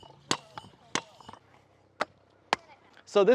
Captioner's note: pogo stick clicking